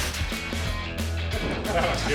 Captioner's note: laughter